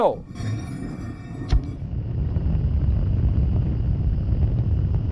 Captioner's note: rocket launching